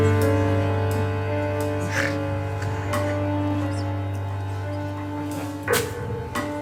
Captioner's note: audience laughs